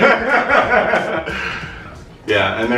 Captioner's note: laughter